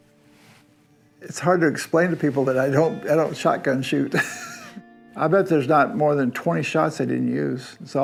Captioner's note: laughs